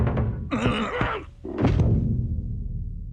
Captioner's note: badger groans